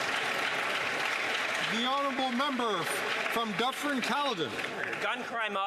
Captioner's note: some Applause